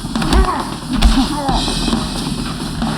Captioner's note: groans